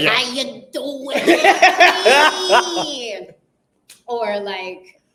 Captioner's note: laughing